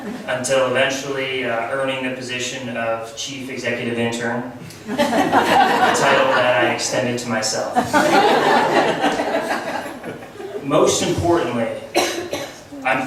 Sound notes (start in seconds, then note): 4.8 laughs